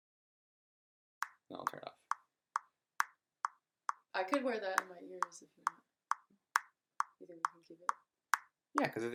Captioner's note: metronome clicking